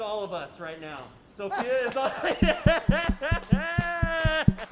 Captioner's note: laughs